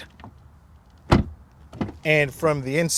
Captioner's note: door banging